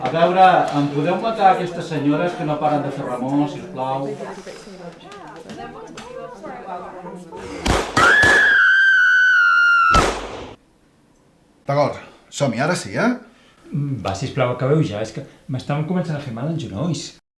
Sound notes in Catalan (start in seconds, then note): 7.6 Trests de pistola; 7.9 Senyores que xisclen de terror